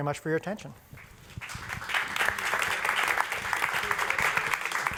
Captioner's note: applause